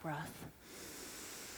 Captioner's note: deep breathing